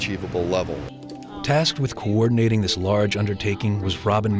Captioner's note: voiceover